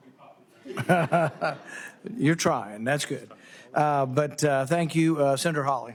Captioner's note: laughter